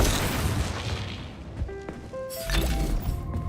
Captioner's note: gunshot